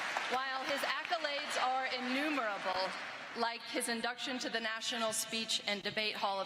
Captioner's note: applause